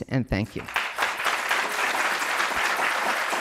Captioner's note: applause